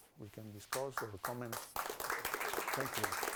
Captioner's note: audience applause